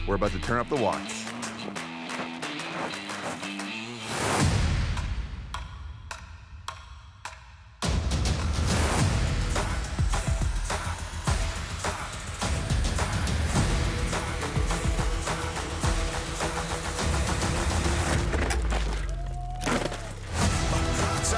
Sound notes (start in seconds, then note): 4.4 upbeat rock music; 18.1 bike crashing; 19.0 distant shouting; 20.2 upbeat dramatic music